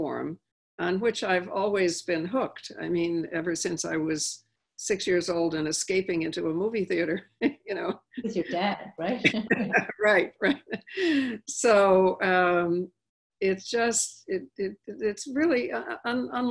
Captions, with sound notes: on which I've always been hooked, I mean, ever since I was six-years-old and escaping into a movie theater, you know? - With your dad, right? - Right, right (laughing). So, it's just, it's really unlike